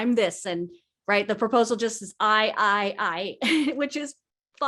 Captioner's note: chuckles